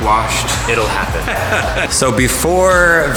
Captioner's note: laughing